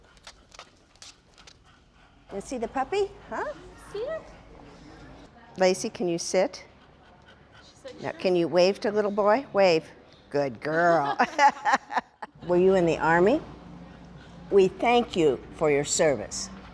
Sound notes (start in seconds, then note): 10.7 laughing